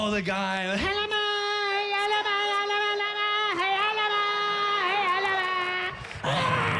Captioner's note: chanting in gibberish